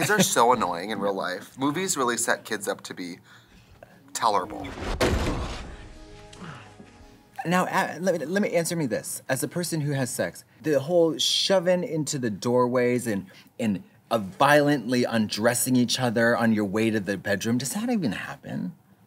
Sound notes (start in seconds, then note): 4.8 Adam slams against the wall